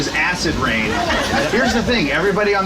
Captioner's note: group laughing